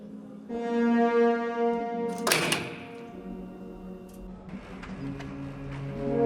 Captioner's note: ascensor slams; ominosa de la música electrónica